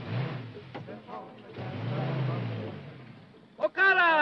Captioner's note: engine revving